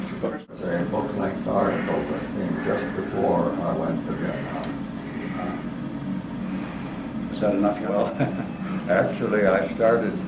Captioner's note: laugh